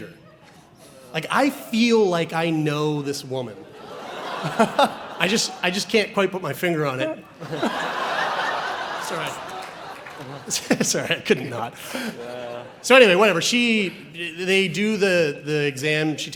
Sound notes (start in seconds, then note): 7.3 audience laughs